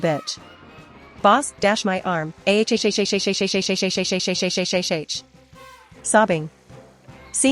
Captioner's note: sobbing